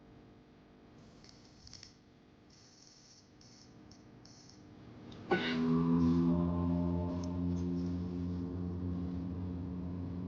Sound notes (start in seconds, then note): 2.4 light buzzing